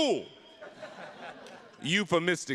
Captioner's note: attendees laughing